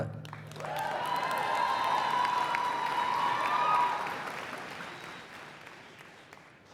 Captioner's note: applause